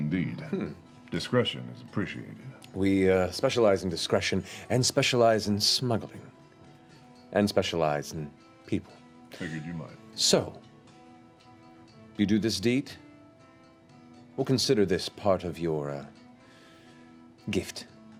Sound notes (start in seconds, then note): none